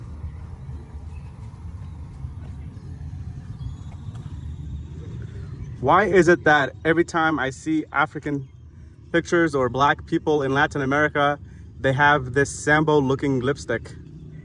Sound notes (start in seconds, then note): 0.0 birds chirping; 0.2 car engine; 2.2 birds chirping; 2.9 car engine